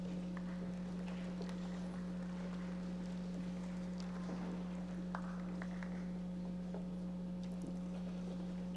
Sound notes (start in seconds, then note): 1.3 audience applauding